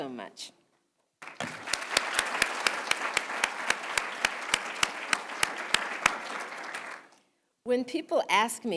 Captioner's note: applause